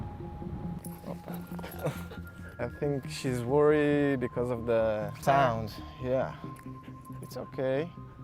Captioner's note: bombing